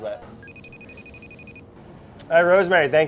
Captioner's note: computer rings